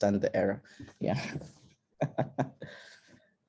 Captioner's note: laughs